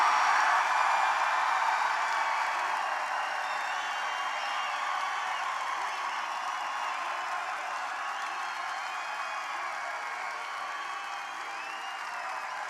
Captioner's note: applause